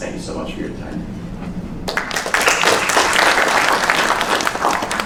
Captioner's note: applause